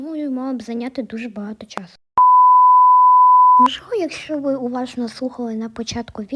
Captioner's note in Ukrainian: звуки глюків телевізора